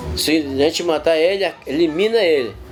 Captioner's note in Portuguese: vozes de crianças